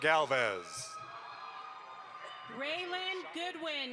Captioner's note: audience applauds